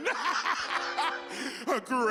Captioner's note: laughs